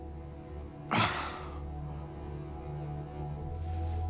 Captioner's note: Chuck sighs